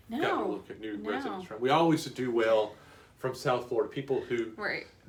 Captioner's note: none